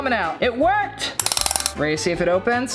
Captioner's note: lock clanging